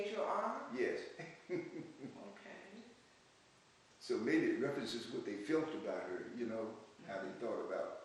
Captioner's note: laughs